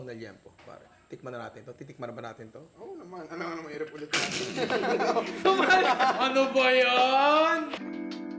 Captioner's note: laughs